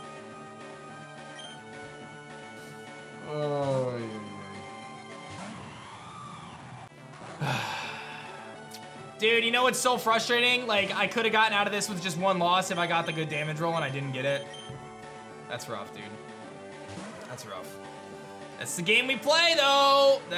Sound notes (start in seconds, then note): 7.4 sighs